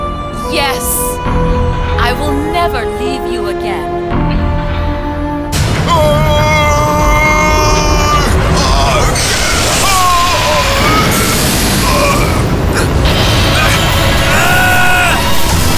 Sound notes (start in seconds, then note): 5.8 Melbu screaming, preparing to attack